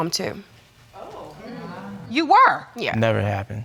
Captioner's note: audience exclaiming